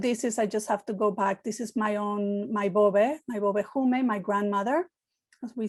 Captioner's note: Hebrew